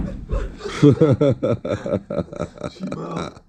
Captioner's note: laughter